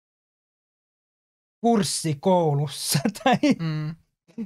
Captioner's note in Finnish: Nauraa